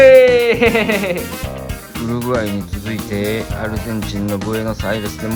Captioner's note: laughs